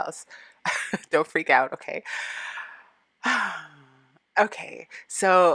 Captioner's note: laughing